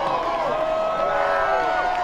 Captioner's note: cheering